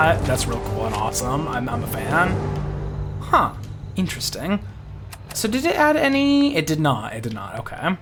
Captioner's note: none